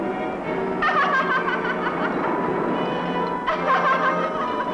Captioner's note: sinister chuckling